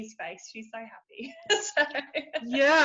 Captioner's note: laughs